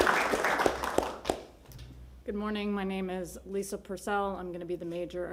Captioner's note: applause